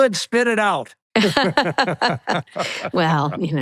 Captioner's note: both laughing